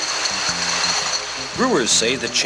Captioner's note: bottles rattle